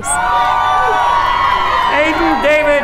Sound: cheering

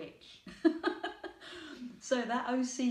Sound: laughing

